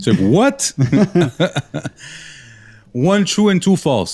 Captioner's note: laughter